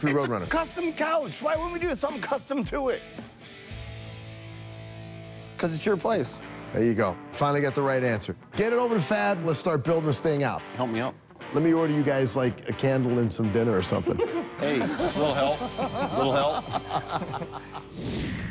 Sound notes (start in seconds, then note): 13.9 laughs; 17.3 laughter